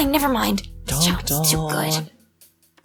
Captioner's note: whispering